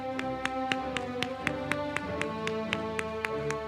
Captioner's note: applause